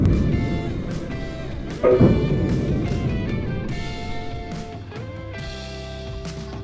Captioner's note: tire explosion